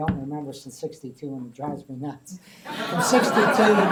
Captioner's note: laughter